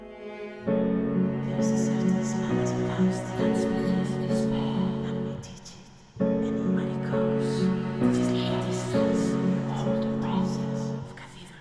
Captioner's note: music. Whispers